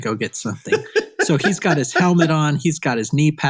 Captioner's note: laughing